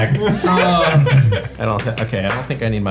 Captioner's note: laughing